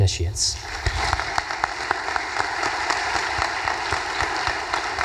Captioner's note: audience applause